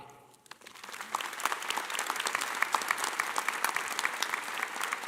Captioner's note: audience applauding